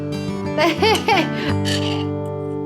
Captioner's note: laughs